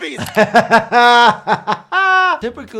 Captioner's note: doctor laughing